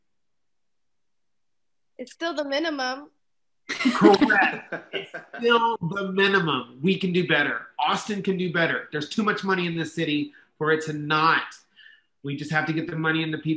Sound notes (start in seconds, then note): 3.7 all laugh